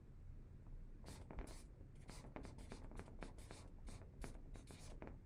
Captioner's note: marker scratching